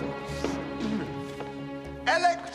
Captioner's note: <i> laughing</i>; <i> clears throat</i>